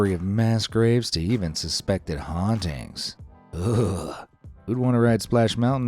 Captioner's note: shivers